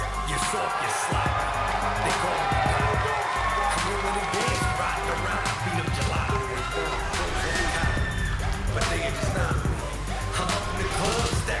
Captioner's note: crowd cheering